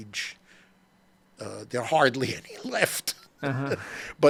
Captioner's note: laughs